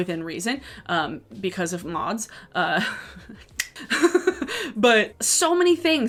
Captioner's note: laughs